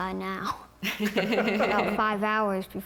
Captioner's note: laughter